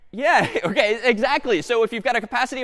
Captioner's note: laughs